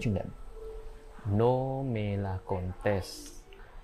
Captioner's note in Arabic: بالإسبانية